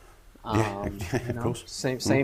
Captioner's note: chuckles